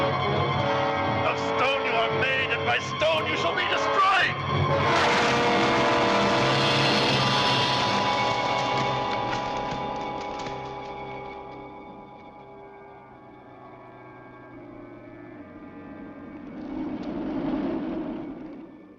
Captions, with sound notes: - Of stone you are made, and by stone you shall be destroyed! (crashing) (wind howling)